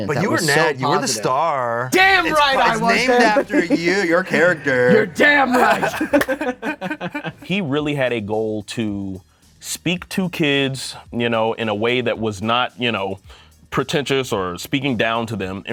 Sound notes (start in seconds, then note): 2.0 laughs; 5.9 both laugh